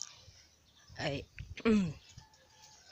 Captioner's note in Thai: ไอ